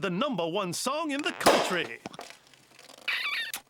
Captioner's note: popping